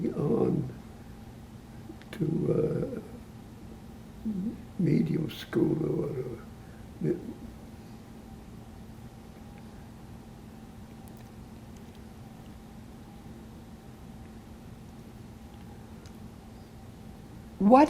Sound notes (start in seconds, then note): 6.5 pauses 10 seconds